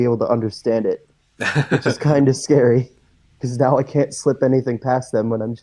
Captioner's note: laughs